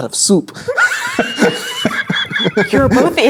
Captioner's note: players laughing